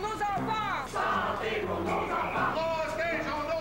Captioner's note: Tous scandent